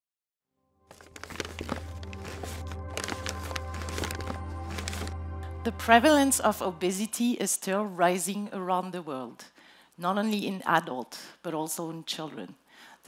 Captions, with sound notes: (dramatic music) (paper crackling) - The prevalence of obesity is still rising around the world. Not only in adults, but also in children.